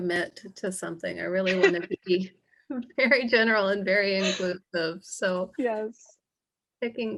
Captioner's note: laughter